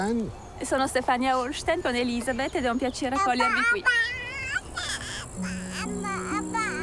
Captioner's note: speaks in foreign language; gentle music